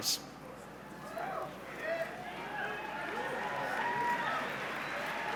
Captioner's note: cheering and applause